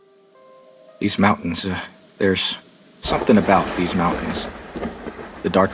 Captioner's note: thunderstorm